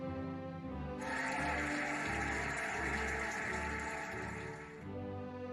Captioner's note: cheering and applauding